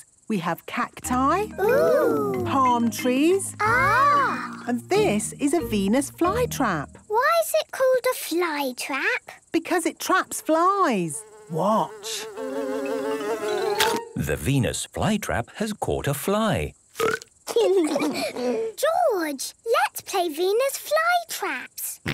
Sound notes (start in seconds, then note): 13.0 buzzing; 13.0 chomps; 16.9 burps